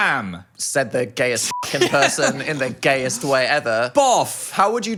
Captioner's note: beep